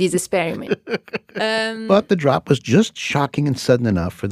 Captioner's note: laughs